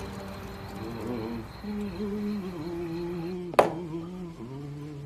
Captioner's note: humming